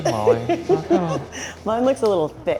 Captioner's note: laughs